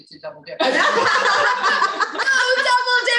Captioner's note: laughing